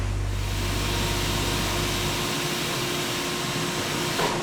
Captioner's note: machines humming